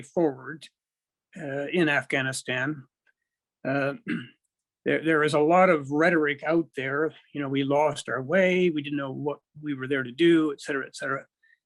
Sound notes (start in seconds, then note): 3.9 clears throat